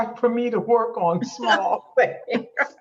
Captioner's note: laughs